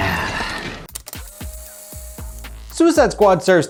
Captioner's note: tape whirring